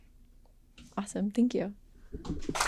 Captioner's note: applause